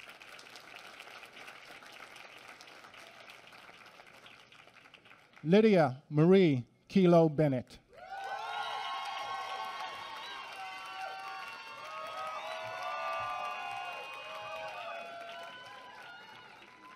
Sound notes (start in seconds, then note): 7.3 applause